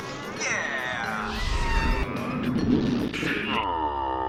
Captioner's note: screaming